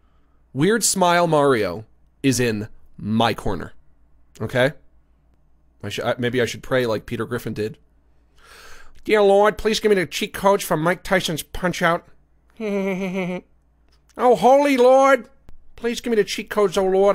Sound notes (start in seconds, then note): 8.8 Imitating Peter Griffin; 12.6 Imitates Peter Griffin's laugh